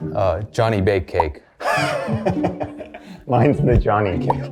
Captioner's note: laughs